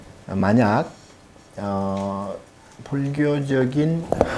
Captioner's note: speaking Korean